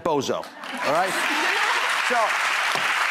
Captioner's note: applause